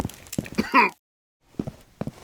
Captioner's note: Lazarus coughing